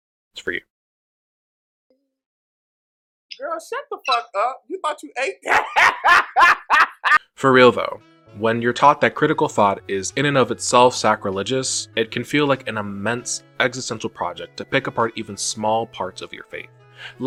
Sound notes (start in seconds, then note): 5.4 laughs